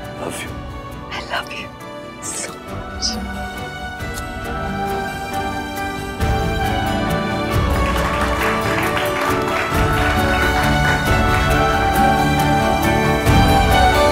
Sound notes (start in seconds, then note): 3.0 kisses; 7.5 claps